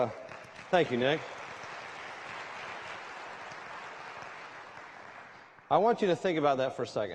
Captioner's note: applause